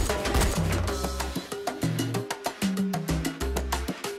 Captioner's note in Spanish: Disparos